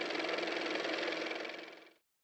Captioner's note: car motor